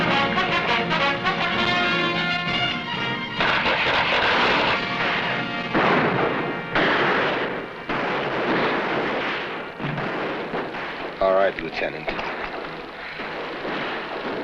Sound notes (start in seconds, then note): 0.0 tense music; 3.1 gunshots blasting